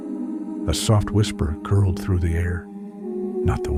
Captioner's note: soft whisper